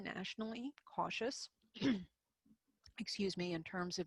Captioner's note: clears throat